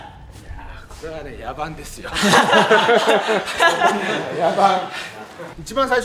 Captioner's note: laughs